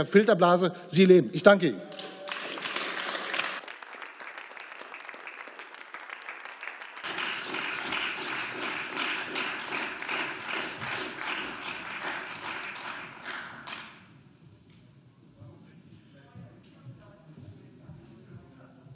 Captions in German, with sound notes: in der Sie leben. Ich danke Ihnen. (Beifall)